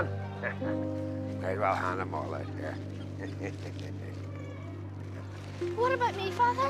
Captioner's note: laughing